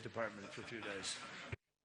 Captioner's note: laughter